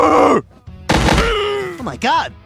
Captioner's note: slamming on the ground sound